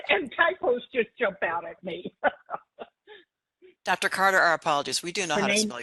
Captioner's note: laughing